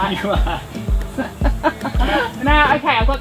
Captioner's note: laughing